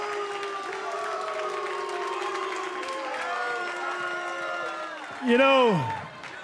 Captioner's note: cheers and boos